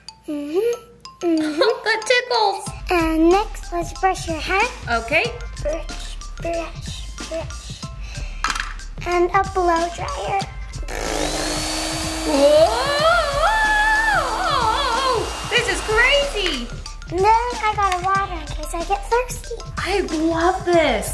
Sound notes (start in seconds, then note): 10.8 blow dryer; 12.8 screams